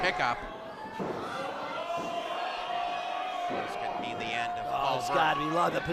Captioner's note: crowd gasping